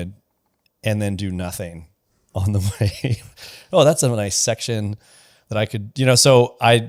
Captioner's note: laughs